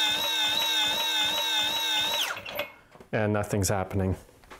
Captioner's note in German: Elektromotor startet